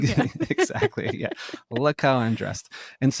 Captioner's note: both laughing